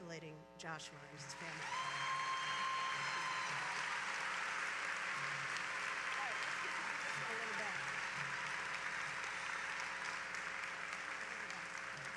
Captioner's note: applause